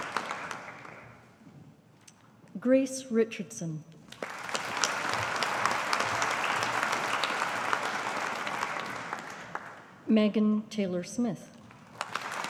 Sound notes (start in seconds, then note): 4.1 audience applauding